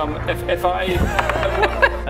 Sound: mocks

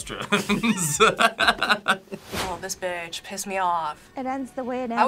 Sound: laughs

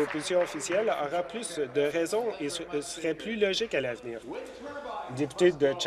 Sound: applause

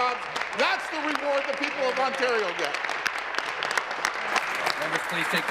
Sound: applause

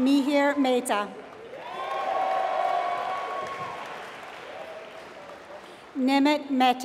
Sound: applause

